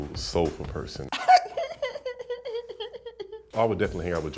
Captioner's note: laughing